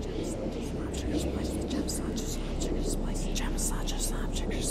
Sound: CODY whispers weakly

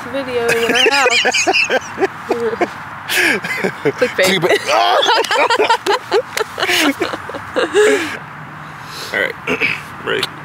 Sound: laughs

